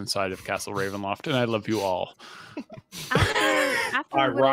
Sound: laughs

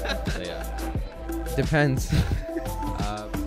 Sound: laughs

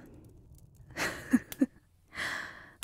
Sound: she laughs at your eager reply

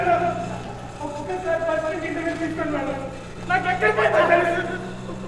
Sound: phone ringing

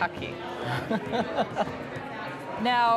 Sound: chuckling

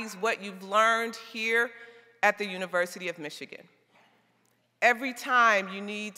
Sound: none

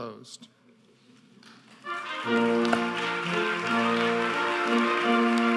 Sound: audience applauding

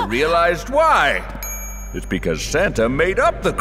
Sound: ding

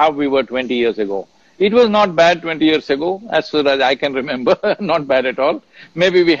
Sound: laughs

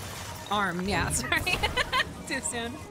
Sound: laughter

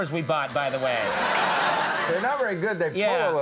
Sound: audience laughs

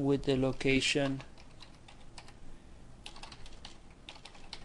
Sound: typing

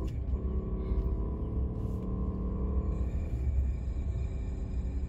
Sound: engine roaring

